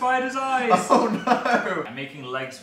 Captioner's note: laughs